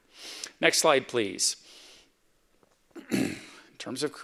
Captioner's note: clears throat